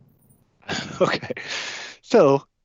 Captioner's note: laughing